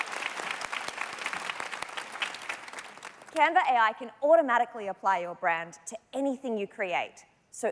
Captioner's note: applause